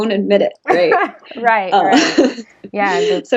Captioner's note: laughs